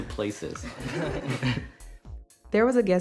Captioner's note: laughter